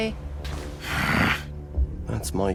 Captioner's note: growls